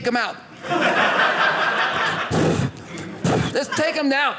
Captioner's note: audience laughing